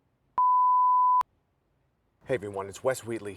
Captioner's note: tone beeps